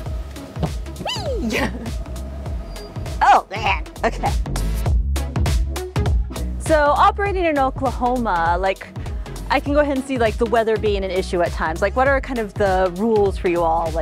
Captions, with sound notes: Wee! (giggles) Oh, yeah, okay! (fun melody) So, operating in Oklahoma, I can go ahead and see like, the weather being an issue at times. Like, what are kind of the rules for you all